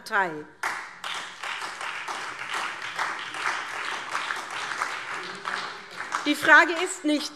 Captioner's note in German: Beifall